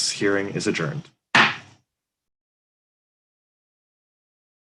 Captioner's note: pounding gavel